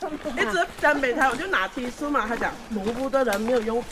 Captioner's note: Cantonese